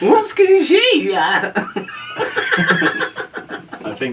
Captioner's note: said in a nightmarish voice